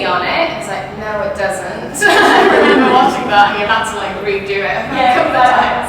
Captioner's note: they all laugh